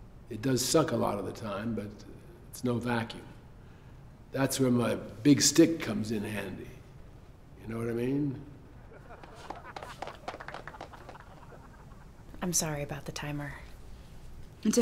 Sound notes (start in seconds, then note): 8.9 crowd clapping